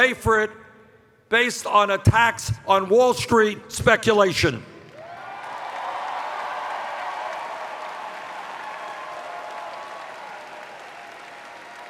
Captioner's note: cheers